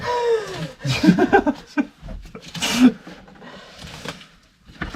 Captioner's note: laughter